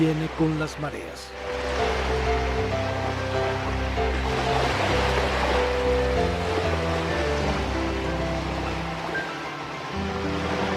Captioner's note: sound of the waves